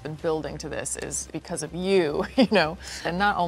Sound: laughs

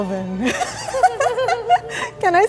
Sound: laughing

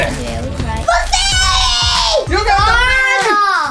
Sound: screams

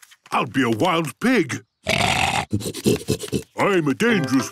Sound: snorting

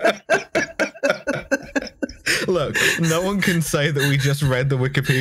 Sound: laughter

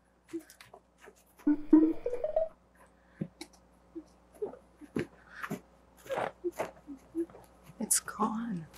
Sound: Goba hums

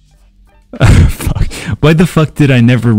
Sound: chuckle

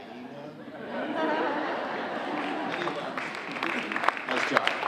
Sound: audience laughing and applauding

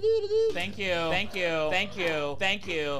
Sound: soldiers grunting

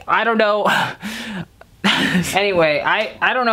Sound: sighs

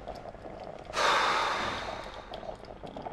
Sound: sighing

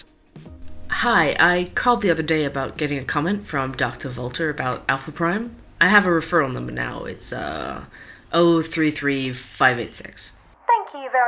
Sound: phone call

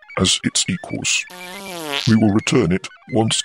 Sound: passing wind

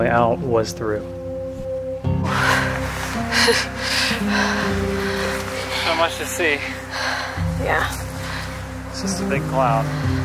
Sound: wind

